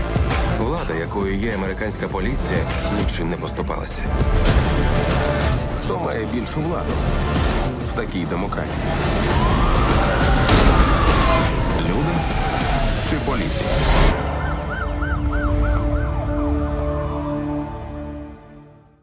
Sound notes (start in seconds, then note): 9.2 siren wailing; 14.0 siren continues wailing; 17.3 music fades